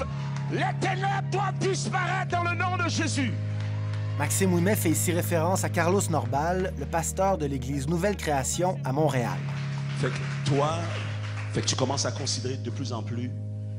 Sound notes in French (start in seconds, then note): 8.8 applaudissements